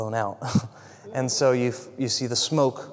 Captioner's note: laugh